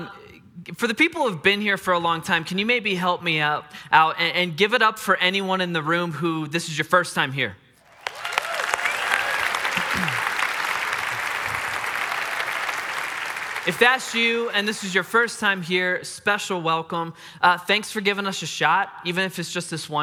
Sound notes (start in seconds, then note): 7.8 congregants clap